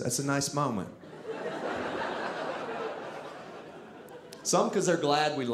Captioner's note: audience laughing